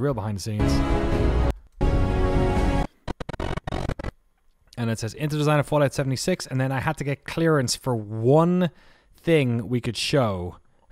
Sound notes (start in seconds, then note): 1.8 music swells; 3.2 distortion